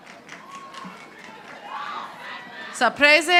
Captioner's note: audience applauding